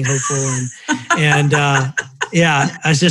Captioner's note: laughing